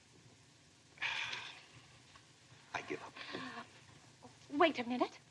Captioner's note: sighs